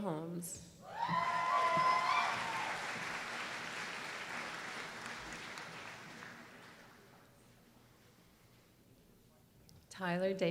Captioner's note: applause